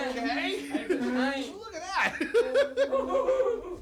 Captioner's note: laughing; Doink and Dink laughing